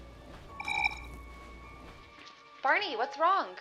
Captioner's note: recorder chirps